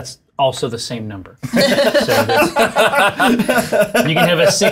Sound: all laughing

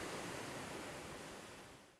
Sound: waves crashing

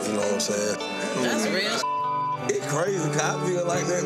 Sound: beep

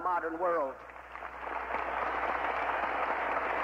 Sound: applause

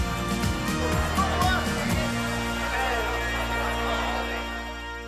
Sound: soft music; students cheering

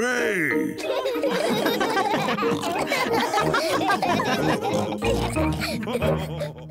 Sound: all laugh

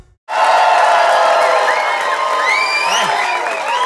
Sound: audience cheers

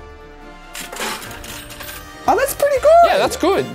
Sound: change dispensed sound effect

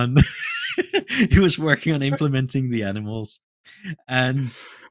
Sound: laughs

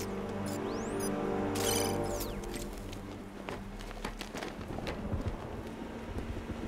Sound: birds chirping

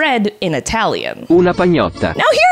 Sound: AI talks in Italian

